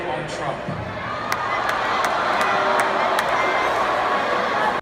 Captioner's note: audience booing